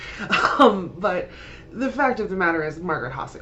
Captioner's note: laughter